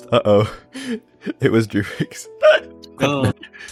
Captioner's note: laughing